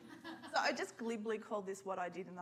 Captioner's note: woman laughs